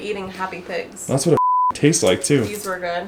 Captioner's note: beep